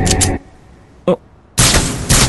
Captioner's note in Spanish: Dominic gruñe sorprendido